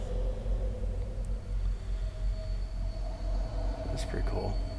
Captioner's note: sound of wind